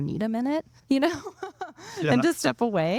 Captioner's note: laughing